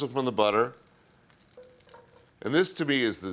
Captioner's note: sizzling softly